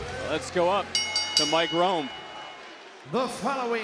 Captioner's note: bell rings